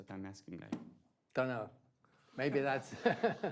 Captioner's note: laughs